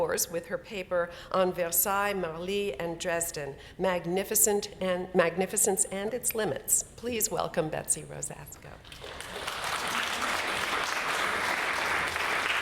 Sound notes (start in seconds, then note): 8.8 applause